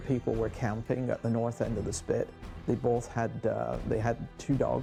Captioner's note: voiceover